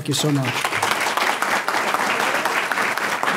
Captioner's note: audience clapping